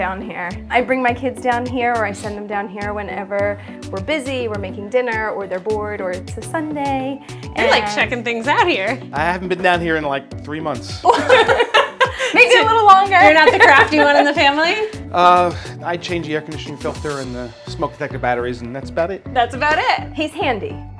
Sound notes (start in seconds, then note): 11.0 laughter